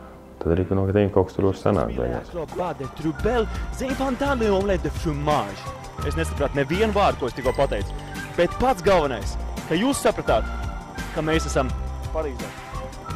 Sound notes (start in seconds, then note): 2.5 speaks French